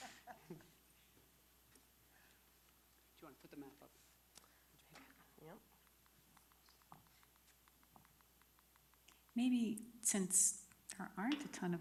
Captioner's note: laughter